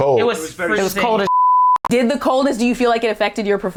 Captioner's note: beep